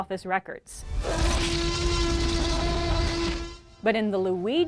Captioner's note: loud t-rex roar